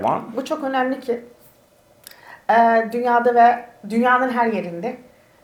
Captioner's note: speaks in Turkish